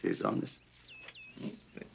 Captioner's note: birds tweeting